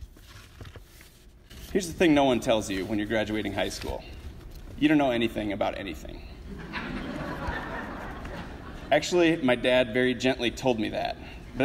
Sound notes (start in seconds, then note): 6.4 audience laughs